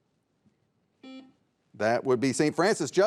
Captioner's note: buzzer beeps